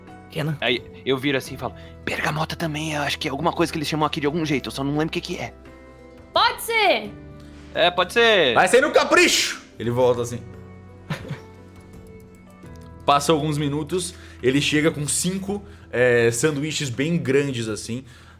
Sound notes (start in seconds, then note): 11.0 giggles